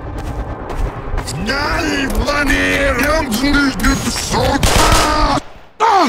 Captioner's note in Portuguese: Demoman infectado falando